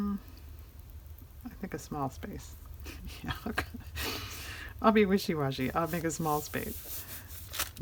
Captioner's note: laughs